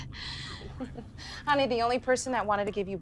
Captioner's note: laughs